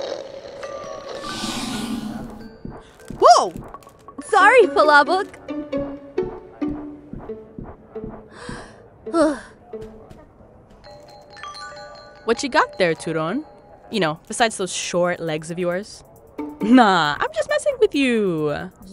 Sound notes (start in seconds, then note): 0.1 Palabok slurping; 5.8 playful music; 7.0 footsteps pounding; 9.0 Turon exhales sharply; 11.6 bell ringing